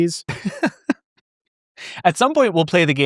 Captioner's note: laughs